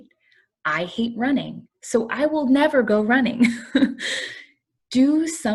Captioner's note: laughter